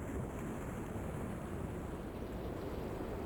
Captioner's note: wind blowing